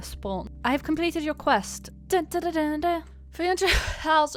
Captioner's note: hums a victory theme